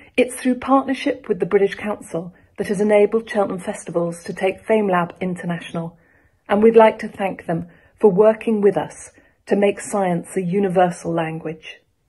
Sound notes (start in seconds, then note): none